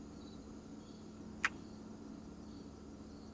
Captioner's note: kiss